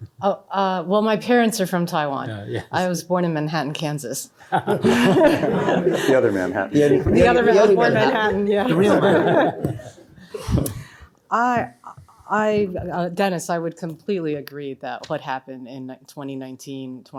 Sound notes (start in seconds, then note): 4.4 laughter